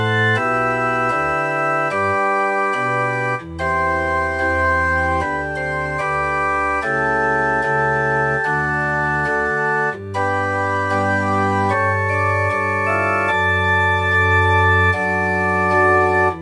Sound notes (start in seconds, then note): none